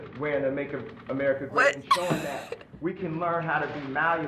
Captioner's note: laughs